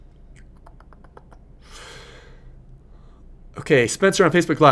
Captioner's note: clicking tongue